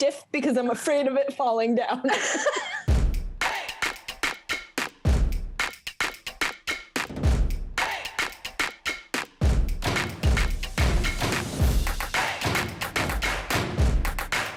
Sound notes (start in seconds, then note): 2.0 both laughing; 3.4 upbeat music